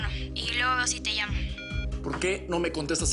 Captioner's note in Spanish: Bip